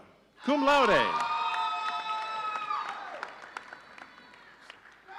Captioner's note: audience cheering